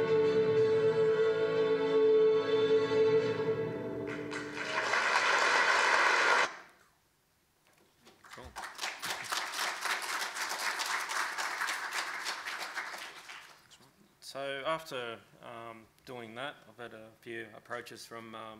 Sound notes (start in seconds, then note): 0.0 choir sings in foreign language; 4.0 clapping; 8.1 clapping